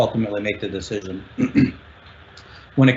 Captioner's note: clears throat